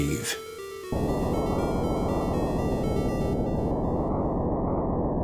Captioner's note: game whooshing